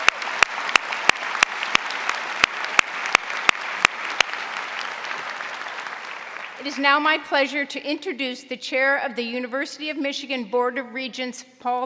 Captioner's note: applause